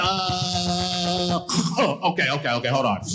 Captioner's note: choking sound